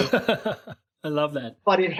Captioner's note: laughs